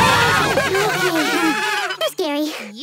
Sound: laughing

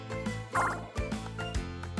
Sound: pinball bouncing sound

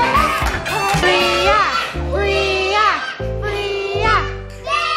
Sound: group Cheering

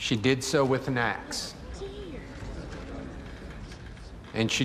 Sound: courtroom stirs

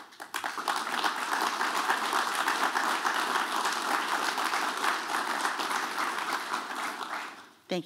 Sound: applause

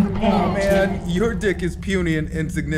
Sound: slurred through a haze

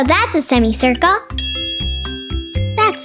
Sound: bell dings

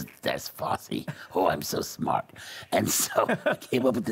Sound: laughing

